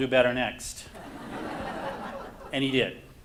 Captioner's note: audience laughs